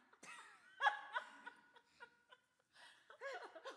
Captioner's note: laughter